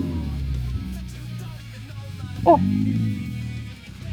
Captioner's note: grunting